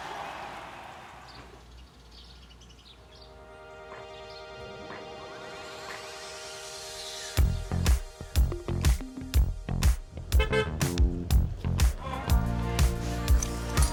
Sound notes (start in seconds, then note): 4.7 upbeat music playing; 10.3 car horn honks